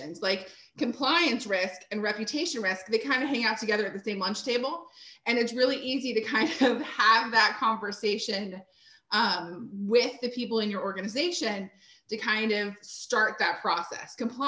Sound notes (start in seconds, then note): 6.4 chuckles